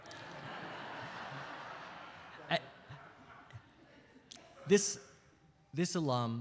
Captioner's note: audience laughs